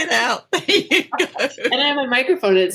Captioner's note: both laughing